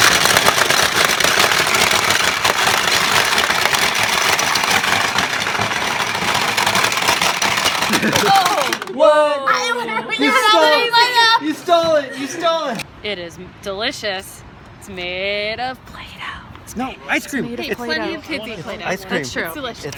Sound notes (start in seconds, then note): 0.0 rapid clicking noises; 9.1 laughs; 16.7 whispers